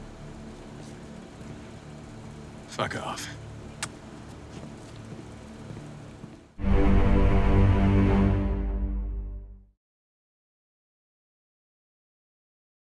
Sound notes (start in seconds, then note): 4.2 Bigfoot smooching; 6.6 dramatic music